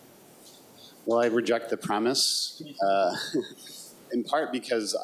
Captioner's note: chuckles